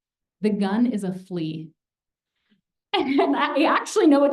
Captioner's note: laughter